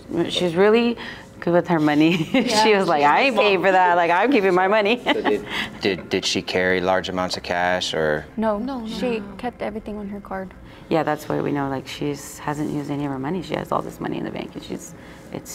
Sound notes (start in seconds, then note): 2.0 chuckles; 5.0 laughs